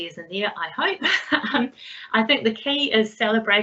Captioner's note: laughs